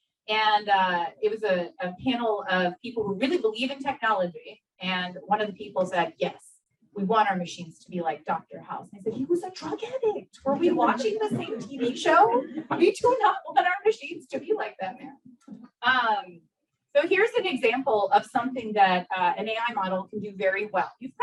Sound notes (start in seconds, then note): 12.4 audience laughs